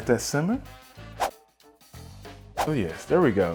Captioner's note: whooshing